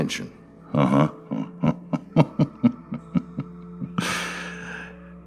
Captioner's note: laughing